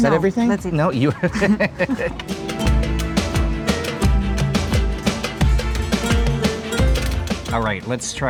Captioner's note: laughing